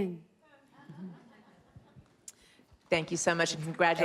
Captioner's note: laughs